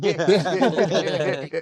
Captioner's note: laughing